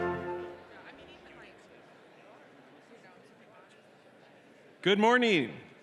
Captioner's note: audience and graduates chattering indistinctly